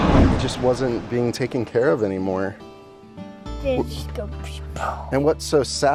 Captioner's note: makes sound effect